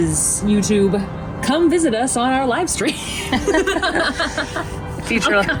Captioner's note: laughing